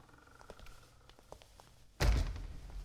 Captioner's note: door creaks and shuts